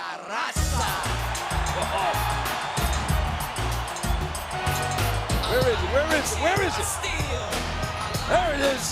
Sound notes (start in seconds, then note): 0.4 crowd cheering; 0.6 upbeat music